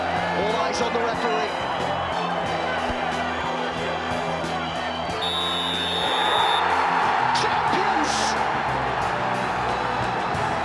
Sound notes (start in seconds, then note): 2.1 crowd hubbub; 5.1 whistle blows; 6.1 crowd roars